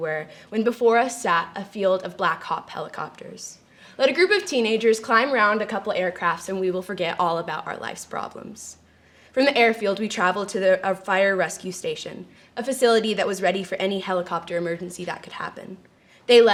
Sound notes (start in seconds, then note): none